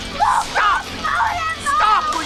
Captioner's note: wildly moaning and shouting unitelligibly